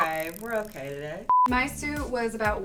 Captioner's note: beep